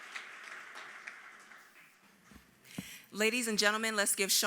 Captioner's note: applause